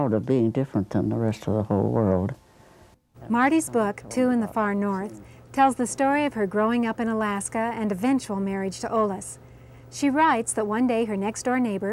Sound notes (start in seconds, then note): 3.2 voiceover